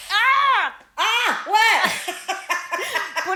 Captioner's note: both laughing